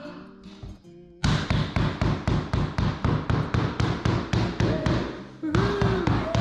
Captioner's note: bambambambambambambam bambambambambambambam